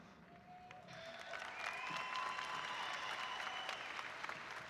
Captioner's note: audience applauding